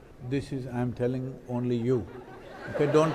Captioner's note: laughs